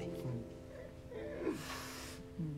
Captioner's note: laughs